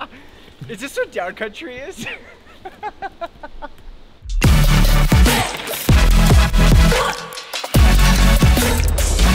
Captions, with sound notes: Is this what downcountry is? (laughs) (upbeat music)